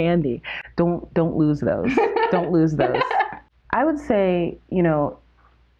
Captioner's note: laughter